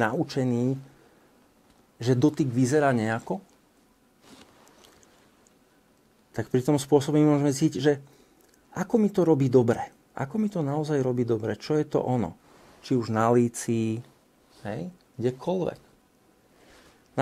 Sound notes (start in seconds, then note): none